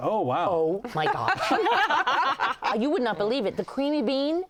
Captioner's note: laughter